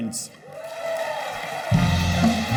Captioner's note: cheers